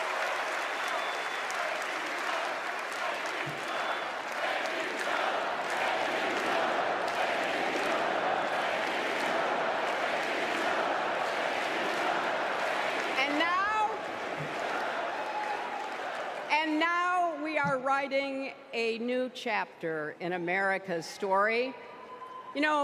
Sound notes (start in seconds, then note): 4.2 applause; 11.5 chanting "thank you, joe"